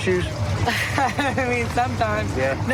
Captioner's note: laughs